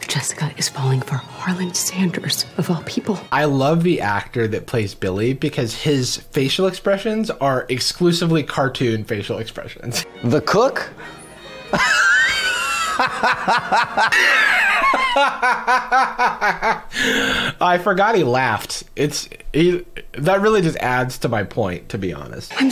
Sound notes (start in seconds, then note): 11.6 boisterous laughter; 14.1 mimics Billy's laughter